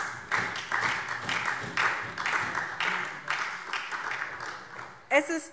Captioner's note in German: Beifall SPD